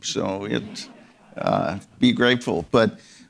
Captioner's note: audience members laughing